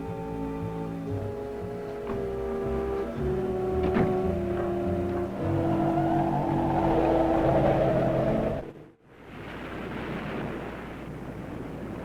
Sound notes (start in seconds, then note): 5.1 eerie haunting music; 5.1 wind blowing; 9.1 waves crashing